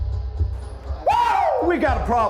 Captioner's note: yells